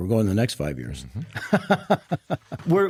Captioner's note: laughs